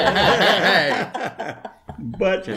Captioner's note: chuckle